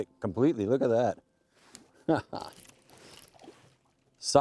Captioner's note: laughs